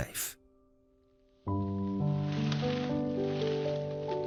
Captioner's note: leaves rustling